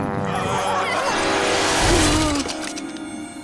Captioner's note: laughing; gasping